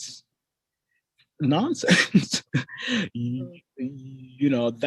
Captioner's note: laughs